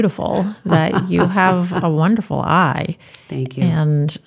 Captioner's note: laughs